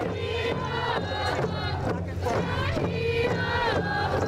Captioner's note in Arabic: يهتفون